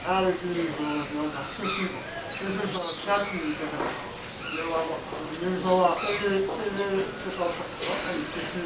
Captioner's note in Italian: parla birmano